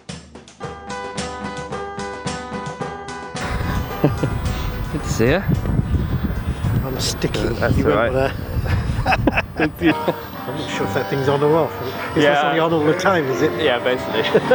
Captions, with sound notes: — Good to see ya. Kinda sticky there. [Laughs] — That's all right. [Chatter]